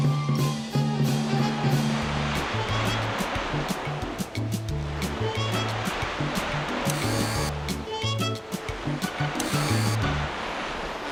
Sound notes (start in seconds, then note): 0.5 jazzy music; 9.3 whirring